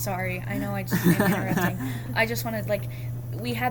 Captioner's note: laughs